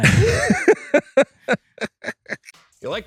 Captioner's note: chuckle